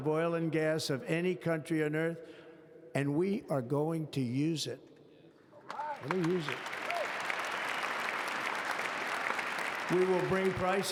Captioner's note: applause